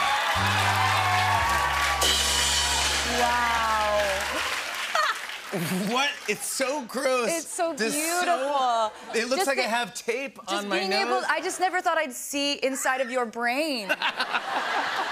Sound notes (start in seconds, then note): 0.4 sad tuba plays, cymbal crash; 3.7 laughs